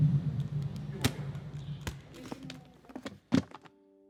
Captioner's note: case clicks